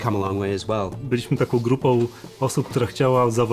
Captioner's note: in Polish